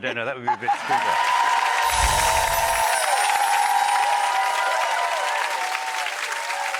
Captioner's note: audience cheering; laughing